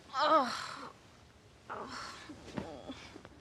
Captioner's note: groans in last night's regrets